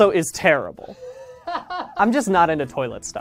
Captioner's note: laughs